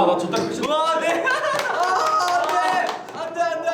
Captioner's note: seal clap